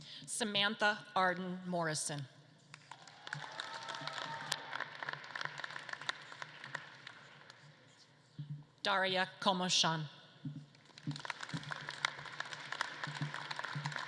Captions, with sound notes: - Samantha Arden Morrison. (audience claps and cheers) Daria Komyshan. (audience claps)